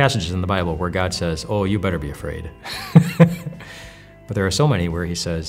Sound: laughs

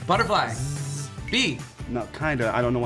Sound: buzzes

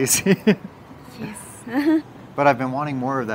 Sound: laughs

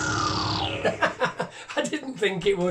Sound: laughs

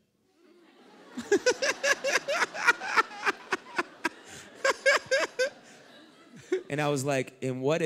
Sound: laughter

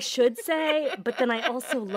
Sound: laughter

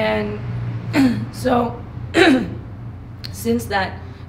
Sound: clears her throat

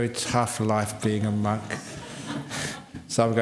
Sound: laughter

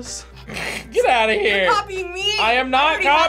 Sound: laughs

